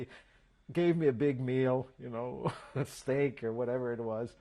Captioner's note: laughs